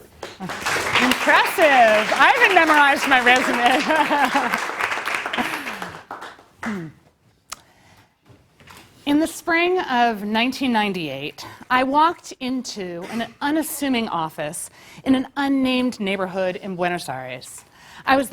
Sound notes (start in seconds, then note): 0.0 applause; 3.8 laugh